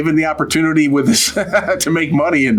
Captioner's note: laughs